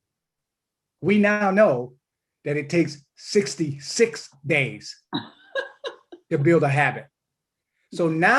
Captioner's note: laughter